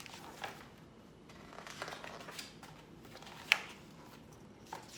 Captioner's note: pages flipping